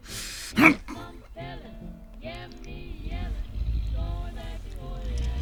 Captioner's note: Brad grunts and growls